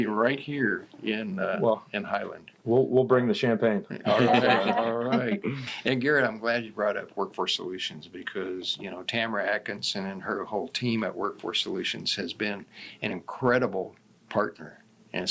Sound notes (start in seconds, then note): 4.0 laughs